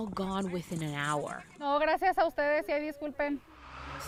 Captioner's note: speaking in foreign language